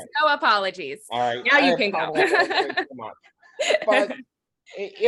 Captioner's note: laughing